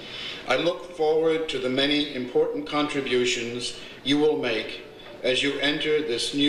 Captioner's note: none